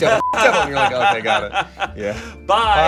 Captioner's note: laughing; beep